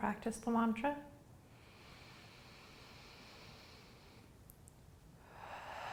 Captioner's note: inhaling; exhaling